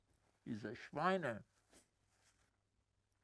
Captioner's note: german